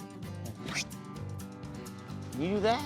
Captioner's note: zipping sound